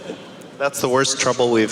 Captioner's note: laughs